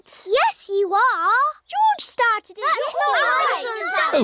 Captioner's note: all arguing